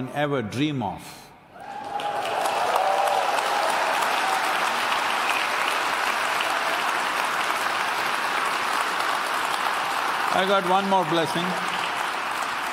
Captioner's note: applause